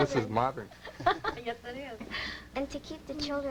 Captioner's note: laughs